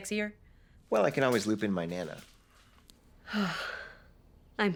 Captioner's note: none